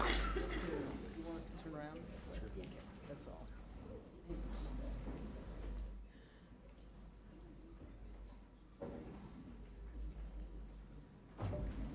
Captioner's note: applause